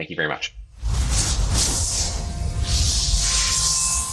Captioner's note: fiery, Electronic sounds